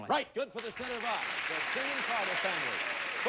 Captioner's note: audience applauding